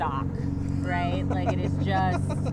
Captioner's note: laughing